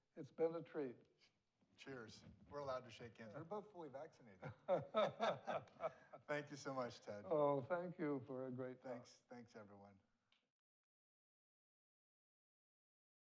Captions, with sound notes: - It's been a treat. - Cheers. We're allowed to shake hands. We're both fully vaccinated. (both laughs) Thank you so much, Ted. - Oh, thank you for a great talk. - Thanks, everyone.